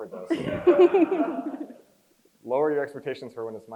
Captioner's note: crowd chuckles